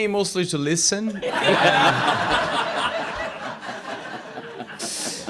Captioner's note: laughter